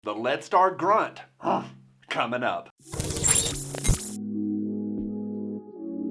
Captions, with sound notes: - The Lead Star Grunt (grunt) comin' up. (futuristic music)